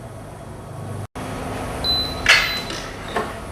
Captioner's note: beeping sound; press machine noise